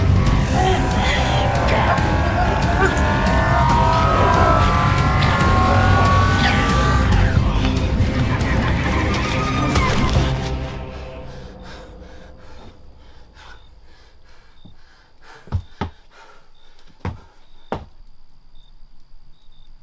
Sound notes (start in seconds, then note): 3.6 shrill tones buzzing; 10.8 Gary breathing heavily